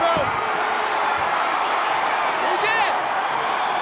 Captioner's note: crowd cheers